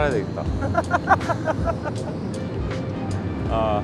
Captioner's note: lolololol